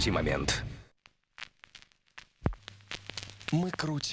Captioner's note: record crack